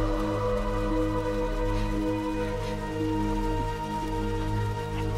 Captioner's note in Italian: respiro affannoso